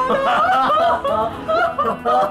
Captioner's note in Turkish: Gülme sesi